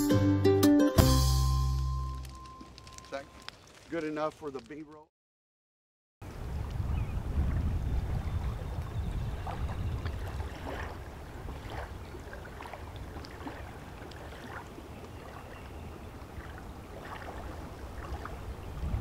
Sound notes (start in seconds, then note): 8.4 water lapping, bird calls, wind blowing, insects buzzing